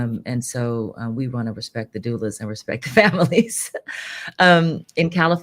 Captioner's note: laughs